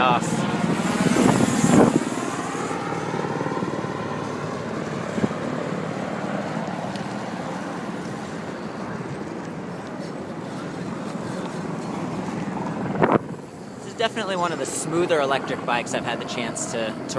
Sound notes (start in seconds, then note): 2.8 wind noise